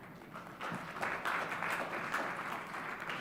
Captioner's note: clapping